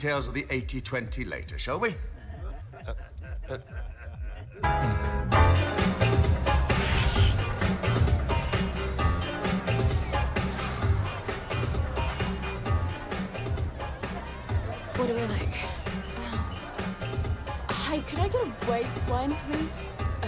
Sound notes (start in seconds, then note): 2.0 laughter